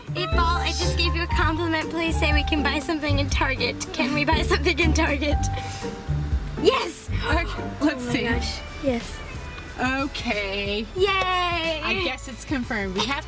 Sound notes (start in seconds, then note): 7.1 gasps